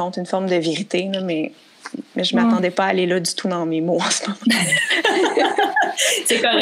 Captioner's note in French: rires